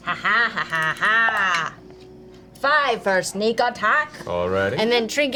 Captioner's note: cackles